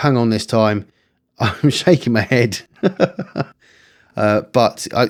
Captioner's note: laughs